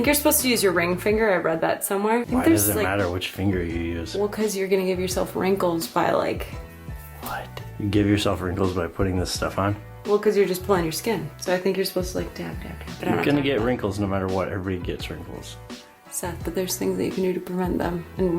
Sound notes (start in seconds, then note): none